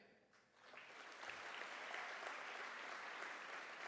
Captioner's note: applause